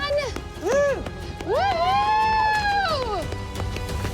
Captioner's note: all cheering